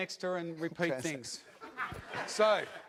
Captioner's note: audience laughs